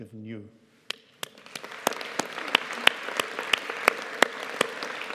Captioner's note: audience applauding